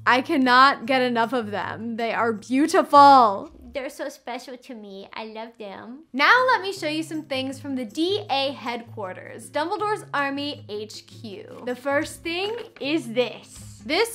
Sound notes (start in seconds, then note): none